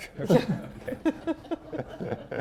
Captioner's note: laughter